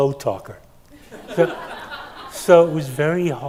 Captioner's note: attendees laughing